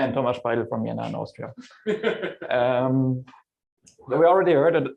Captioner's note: laughter